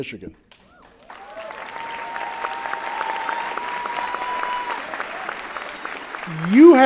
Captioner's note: applause and Cheering